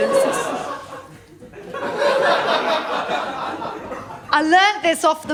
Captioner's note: laughter